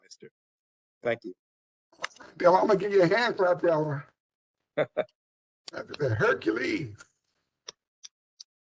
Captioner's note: laughter